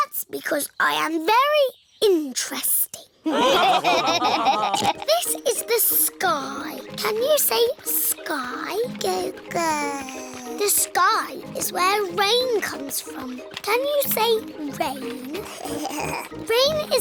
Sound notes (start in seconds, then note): 3.2 laughter; 5.1 snorts; 9.6 babbles; 15.2 giggles